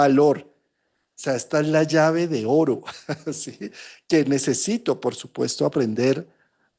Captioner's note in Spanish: risas